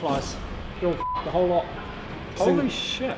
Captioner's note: beep